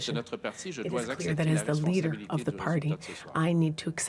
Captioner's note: speaking French